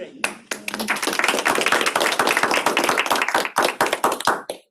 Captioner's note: applause